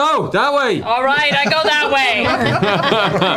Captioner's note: shouting